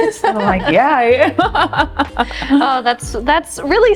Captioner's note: both laughing